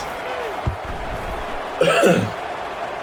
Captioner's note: crowd Noises